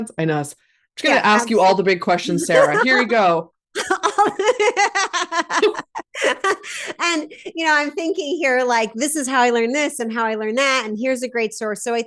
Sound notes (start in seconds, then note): 3.7 laughs